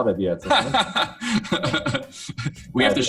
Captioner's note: laughing